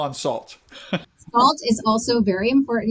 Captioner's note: chuckles